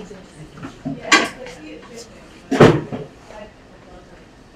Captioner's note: speaking away from mic